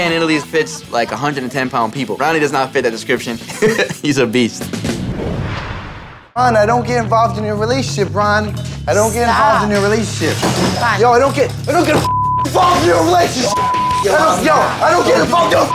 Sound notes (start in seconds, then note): 3.4 laughing; 4.8 whooshing